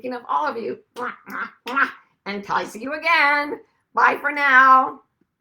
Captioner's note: kisses